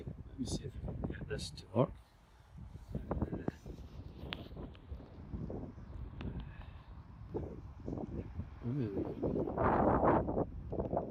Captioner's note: extreme wind noise